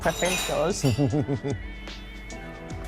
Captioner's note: laughs